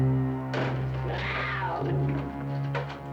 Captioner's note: snarling continues